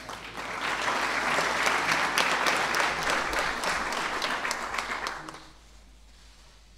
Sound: applause

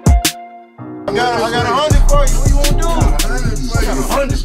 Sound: group chatter

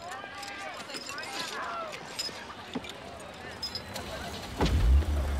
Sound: students chattering; engine purrs

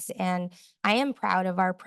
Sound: none

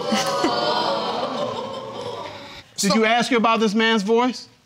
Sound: audience exclaims; laughs

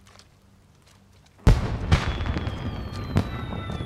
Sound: fireworks crackling

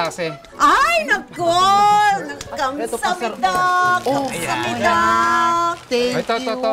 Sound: in Korean-ish

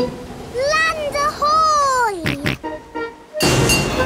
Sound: snorts

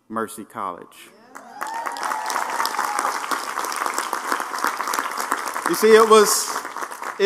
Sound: applause

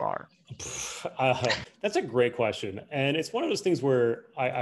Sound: laughs

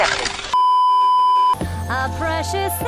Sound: beeeeeep

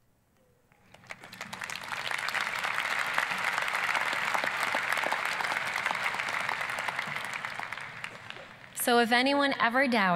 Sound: applause

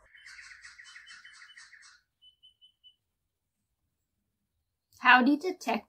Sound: bird calls outside window

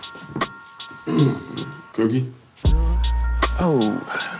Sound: clears throat

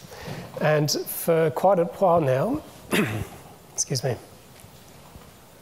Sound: clears throat

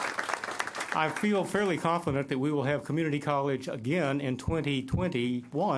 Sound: applause

